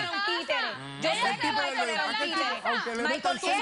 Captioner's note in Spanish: Comentarios al unísono